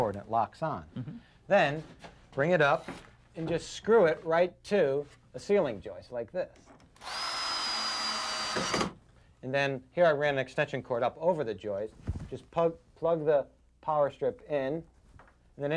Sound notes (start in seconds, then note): 7.0 drill drilling